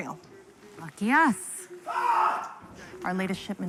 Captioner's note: patient screams